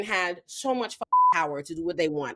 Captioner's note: beep